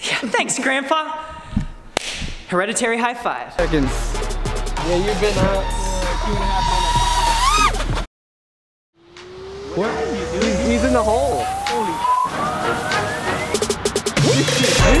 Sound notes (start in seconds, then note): 5.8 drone buzzes; 12.1 electro music